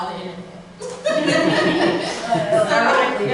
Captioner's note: laughter